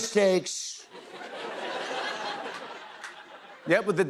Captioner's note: laughter